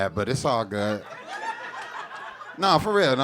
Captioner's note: audience laughing